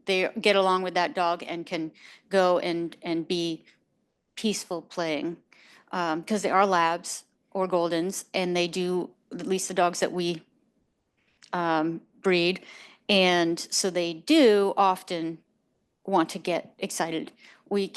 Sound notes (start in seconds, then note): none